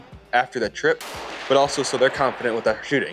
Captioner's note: gun fires